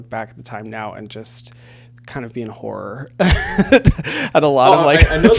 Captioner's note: laughing